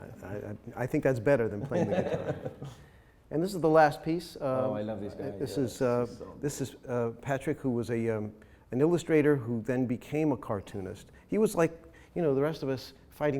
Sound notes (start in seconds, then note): 1.6 chuckles